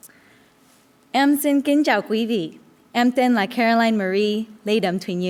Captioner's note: foreign language